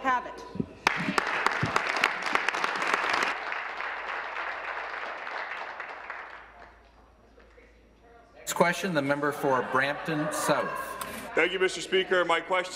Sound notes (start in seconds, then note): 4.6 applause